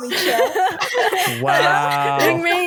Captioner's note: laughter